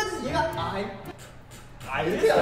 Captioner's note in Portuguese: sons de sopro